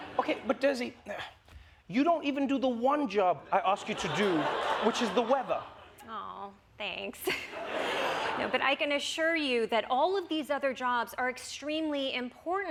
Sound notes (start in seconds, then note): 7.2 laughter